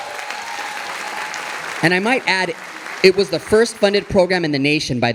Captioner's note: audience applauding